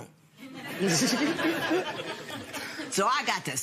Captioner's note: laughter